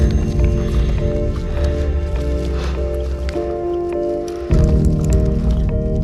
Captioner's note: heavy breathing; pensive music continues